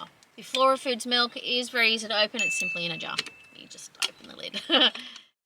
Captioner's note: laughs